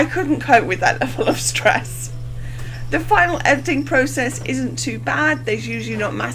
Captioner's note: laughs